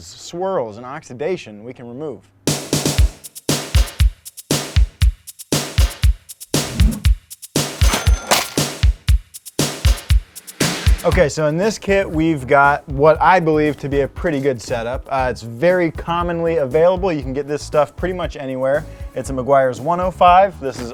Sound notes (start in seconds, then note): 2.4 lively drum music; 7.7 cash register dings